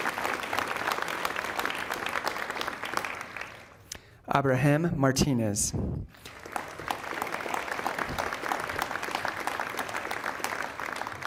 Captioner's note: applause